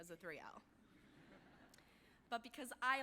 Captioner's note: audience laughing